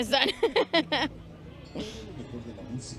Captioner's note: laughter